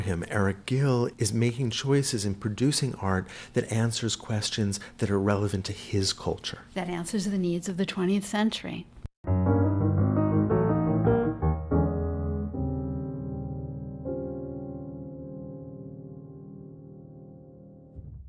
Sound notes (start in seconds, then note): 6.0 voiceover; 9.2 jazz piano